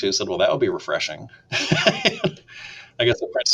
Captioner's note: laughs